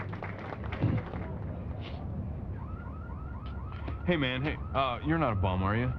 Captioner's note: sniffs